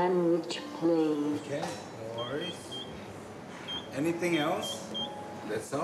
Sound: register keys beep

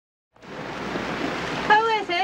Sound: rain falling

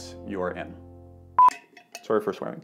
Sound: beep

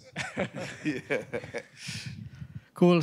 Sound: laughter

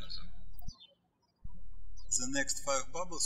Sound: birds chirping

